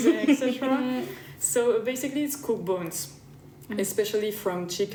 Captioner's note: laughter